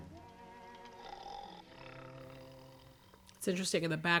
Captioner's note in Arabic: ألبرت يشخر